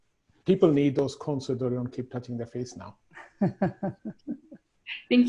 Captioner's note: laughter